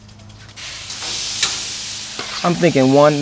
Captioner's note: sizzling